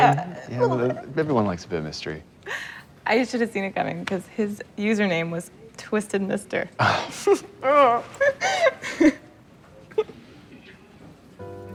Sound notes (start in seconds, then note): 8.2 laughter